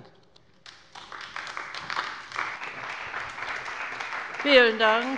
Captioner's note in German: Beifall bei der CDU und dem BÜNDNIS 90/DIE GRÜNEN